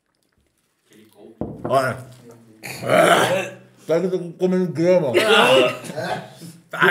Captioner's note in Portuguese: Sons de nojo